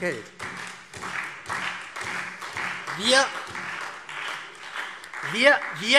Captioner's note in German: Beifall SPD